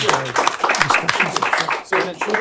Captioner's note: applause